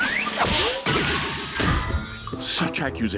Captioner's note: poof